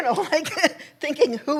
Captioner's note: laughs